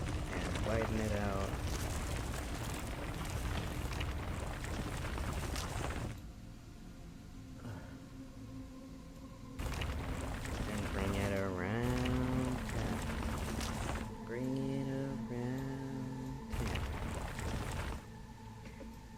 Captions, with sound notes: Yeah, widen it out... [gravel sounds] And bring it arouuuund town. Bring it arouuuund town. Okay.